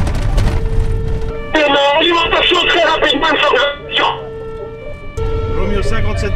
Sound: radio

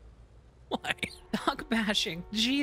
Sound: as Peter, laughing

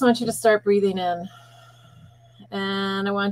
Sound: breathing in

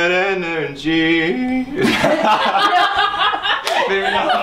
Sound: all laughing

